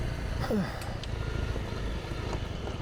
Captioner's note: sighs